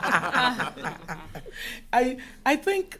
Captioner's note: laughter